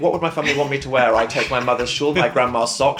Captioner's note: laughs